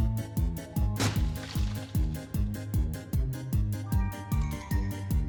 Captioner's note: dirt thudding